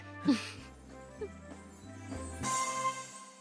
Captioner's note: laughs